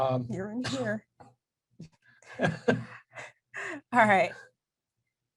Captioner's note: chuckles